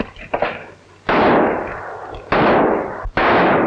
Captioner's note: gunshots